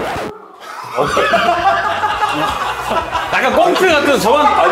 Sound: hahaha

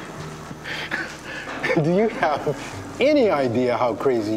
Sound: Bruce chuckling

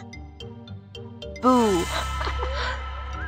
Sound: laughing

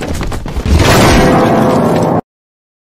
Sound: crash

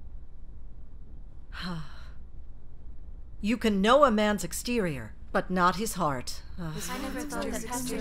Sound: sigh

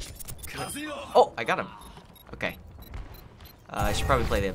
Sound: in game: beeping

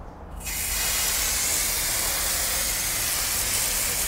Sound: water spraying

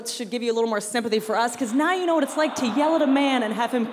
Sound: audience laughter

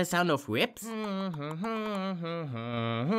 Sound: hums; keeps humming

